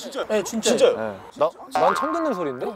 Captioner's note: hmm??